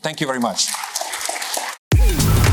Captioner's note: applause